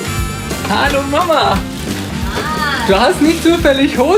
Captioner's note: speaking German